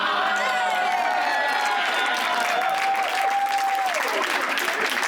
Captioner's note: company cheering